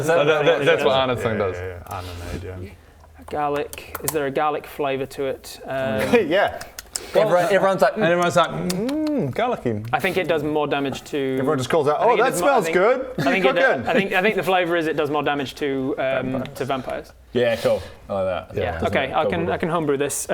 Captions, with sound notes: that's what Ana's thing does yeah Ana nade yeah Garlic is there a garlic flavour to it? umm yeah! everyone's like *num num* mmmm garlicky I think it does more damage to Everyone just calls out oh that smells good! - I think the flavour is it does more damage to um - What you cooking? vampires to vampires yeah cool, I like that yeah okay I can homebrew this